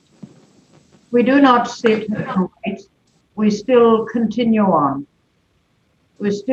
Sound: audio distorted

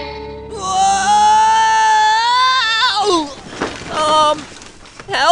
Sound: screams

